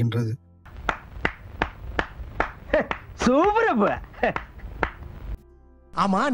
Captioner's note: round of applause and appreciation